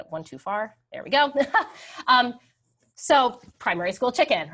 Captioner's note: laughs